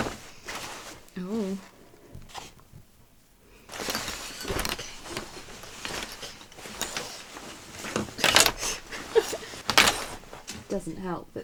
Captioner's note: rustling